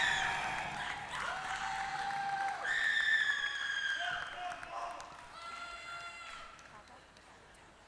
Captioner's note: scream; applause